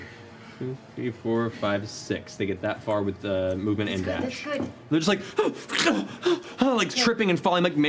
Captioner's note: gasping